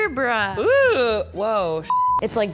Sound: voiceover; beep

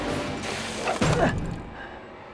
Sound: grunting

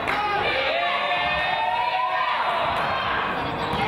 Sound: crowd

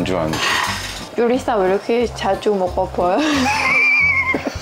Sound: laughing

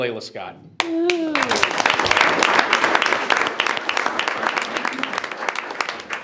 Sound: group applauds and cheers

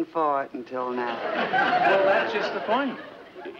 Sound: audience laughs

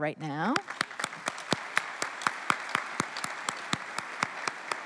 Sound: applause

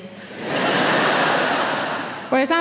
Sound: audience laughing

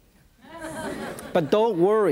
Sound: audience laughs

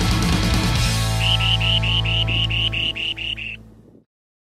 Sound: sandpiper calls

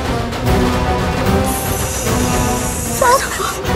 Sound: dramatic music; hissing

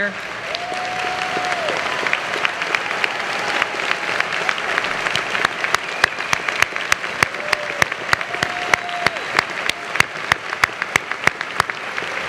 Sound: applause

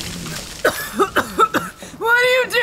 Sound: coughing

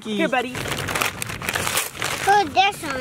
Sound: paper crinkling

